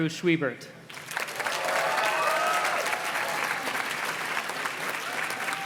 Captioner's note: audience cheers and claps